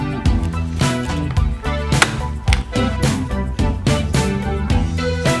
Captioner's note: sharp *click* of the corner cutter